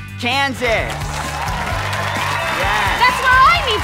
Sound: audience cheering

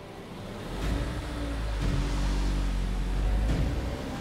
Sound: car moving

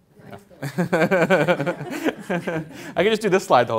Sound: laughs

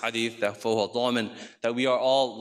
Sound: speaks in foreign language

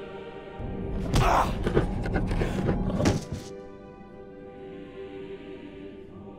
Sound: fleshy thunk; grunting

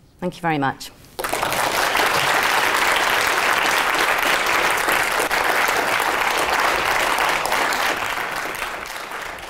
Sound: applause

